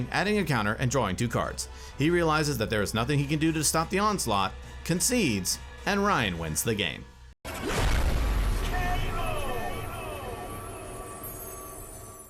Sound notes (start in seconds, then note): 7.5 explosion booming; 9.5 voice echoing